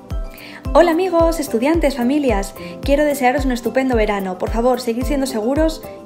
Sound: speaking in foreign language

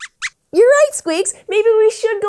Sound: squeaks squeaks

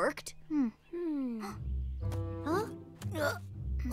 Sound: gasps

